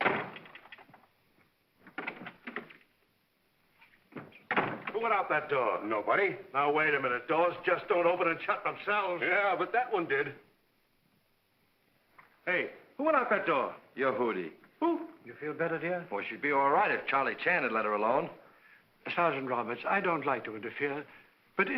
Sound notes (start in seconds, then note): 0.0 door closes; 1.9 door opens; 4.1 door closes